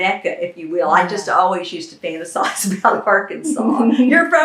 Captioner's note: laughter